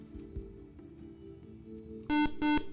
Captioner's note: beeping